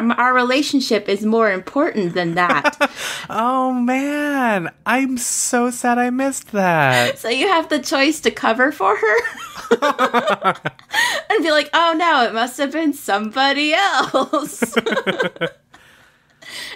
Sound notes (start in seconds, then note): 2.1 laughs; 9.4 laughs; 16.5 laughs